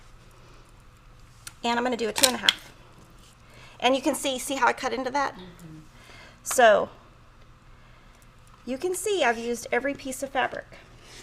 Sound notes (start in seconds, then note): none